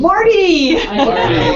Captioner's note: laugh